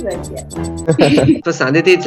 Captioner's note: laughs